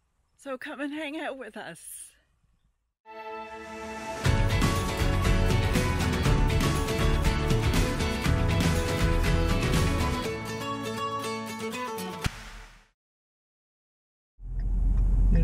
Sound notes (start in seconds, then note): none